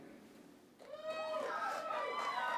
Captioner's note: applause